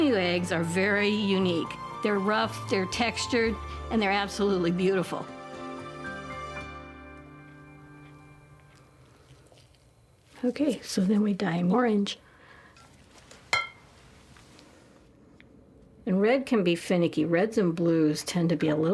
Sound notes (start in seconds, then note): 5.6 gentle music; 12.3 ruffling; 13.5 glass clinking